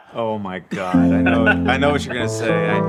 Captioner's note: laughing